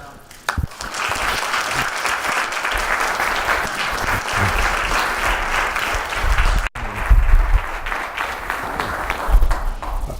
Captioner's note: applause